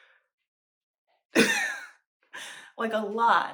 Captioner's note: laughter